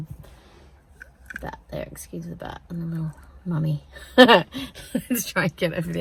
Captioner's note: laughs